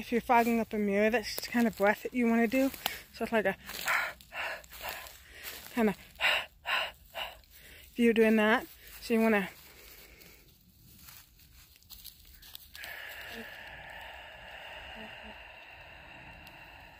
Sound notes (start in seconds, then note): 5.1 breathing into hand; 9.9 inhale; 10.7 exhale